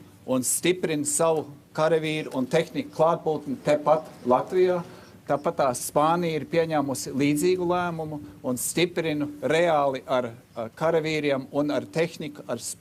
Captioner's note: speaking Alternate Language